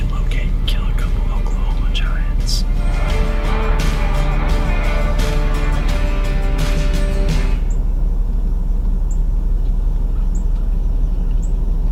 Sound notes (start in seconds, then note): 4.5 birds chirping; 4.5 upbeat country music